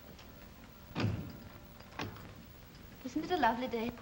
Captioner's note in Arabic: يغلق الباب